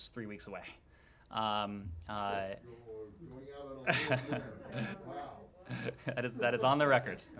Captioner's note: laughter